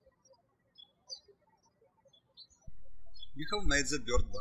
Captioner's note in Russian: птички щебечут